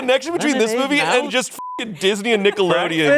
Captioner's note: beep